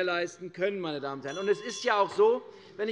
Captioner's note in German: Unruhe - Glockenzeichen des Präsidenten